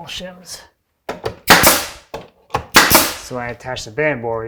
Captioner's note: nail gun clicking